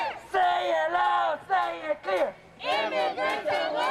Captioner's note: chanting